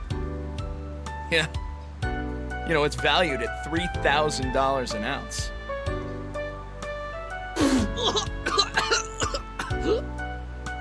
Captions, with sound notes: Yeah. You know, it's valued at $3,000 an ounce. *choking*